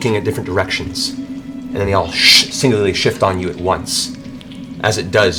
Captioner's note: whoosh